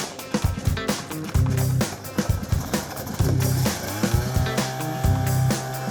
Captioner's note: snowmobile engine